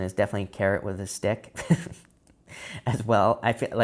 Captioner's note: chuckles